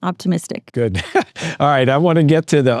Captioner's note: laughs